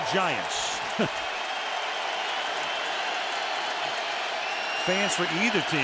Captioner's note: cheering